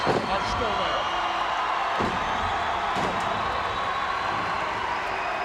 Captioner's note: crowd cheering